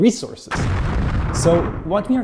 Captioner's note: bomb explodes